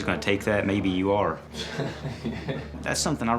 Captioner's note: laughing